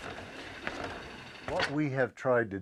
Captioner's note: foot kicking wheel; voice off camera